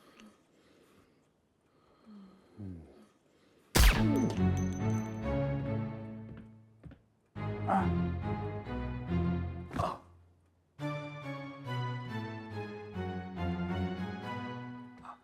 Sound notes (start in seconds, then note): 3.6 dramatic orchestral music; 3.7 gun firing; 7.7 Michael gasping